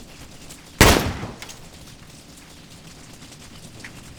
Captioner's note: gun fires